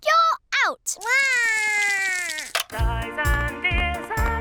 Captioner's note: cries